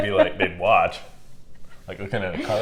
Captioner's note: laughing